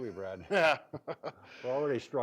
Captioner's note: both laugh